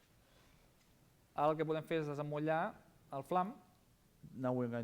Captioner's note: non-english speech